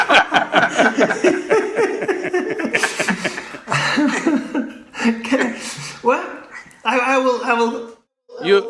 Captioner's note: laughter